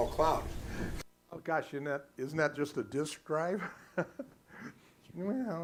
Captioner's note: laughing